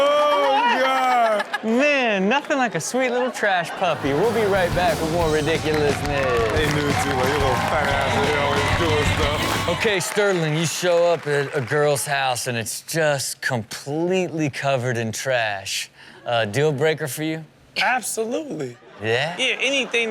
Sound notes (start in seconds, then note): 6.7 crowd cheers; 6.7 rock music plays